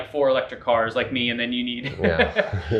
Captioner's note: laughs